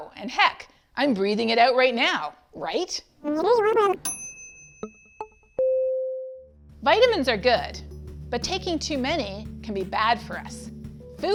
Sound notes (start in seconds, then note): 4.0 bell dings